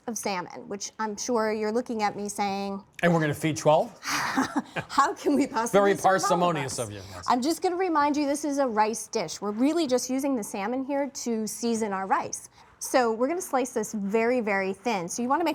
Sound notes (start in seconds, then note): 4.0 laughs